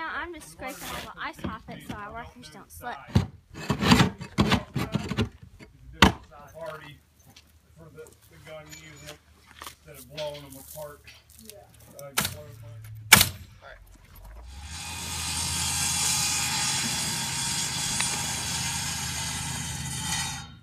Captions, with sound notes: Right now I am just scraping all the ice off it so the workers don't slip. (scraping noise) (salt hitting the porch) (nail gun and air compressor noise) (saw cutting lumber)